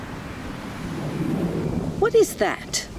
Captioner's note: insects chirping; orb whooshing